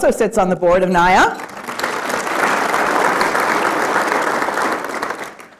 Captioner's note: applause